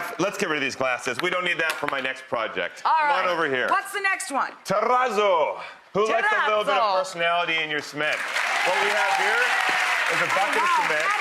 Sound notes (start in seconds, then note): 8.1 audience cheering